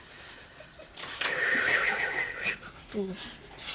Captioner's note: sigh